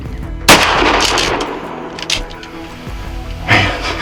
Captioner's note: sound of gunshot